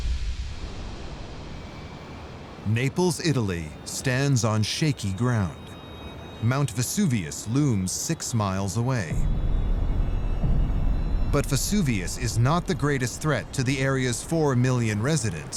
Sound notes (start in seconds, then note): 9.1 ominous music; 9.1 deep rumble